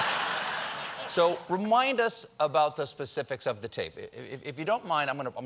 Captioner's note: laughter